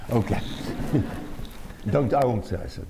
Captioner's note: laughter